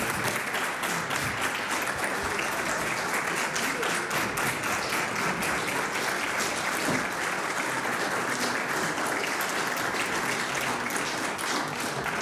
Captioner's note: applause